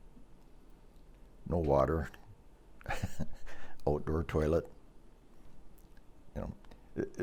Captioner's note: laughs